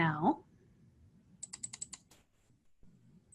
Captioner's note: mouse clicks